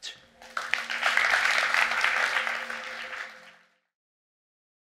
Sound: audience clapping

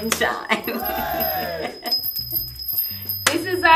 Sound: chimes ringing

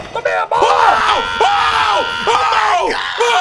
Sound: players scream frantically

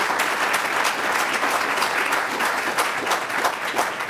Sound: applause

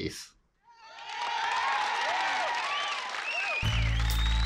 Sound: crowd cheers

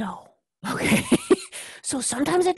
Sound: laugh

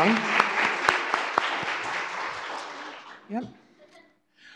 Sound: applause

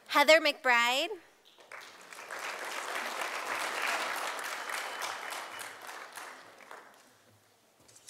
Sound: sound of applause from audience

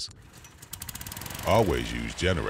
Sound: generator rumbling

